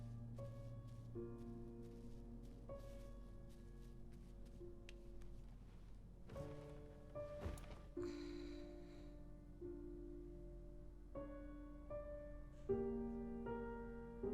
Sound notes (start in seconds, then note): 8.0 sighs